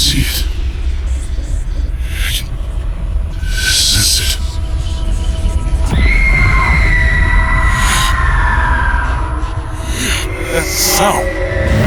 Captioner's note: rumbling void sounds, shrill awful sound